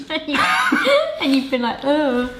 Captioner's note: laughing